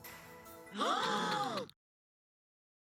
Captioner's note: shocked gasps